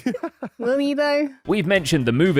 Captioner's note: laughs